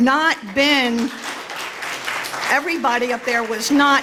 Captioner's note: applause